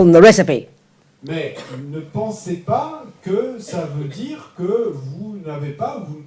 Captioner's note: French